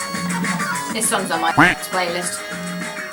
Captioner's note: duck quack